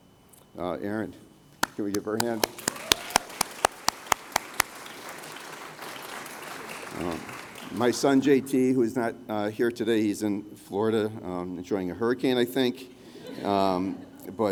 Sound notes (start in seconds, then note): 3.1 applause; 13.2 laughter